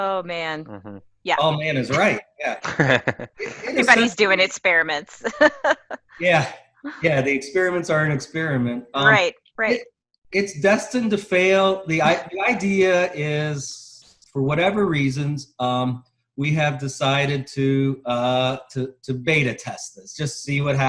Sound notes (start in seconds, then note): 4.7 laugh